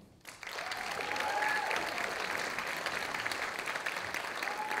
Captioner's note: audience applauding